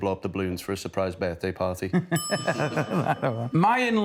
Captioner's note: laughter